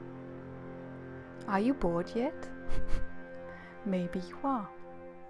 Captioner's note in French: rires